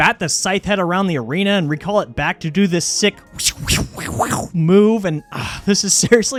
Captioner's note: slashing noises